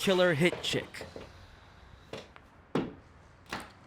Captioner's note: thud